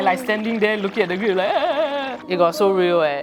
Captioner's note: crying noises